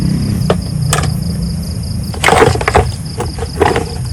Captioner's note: motorcycle noise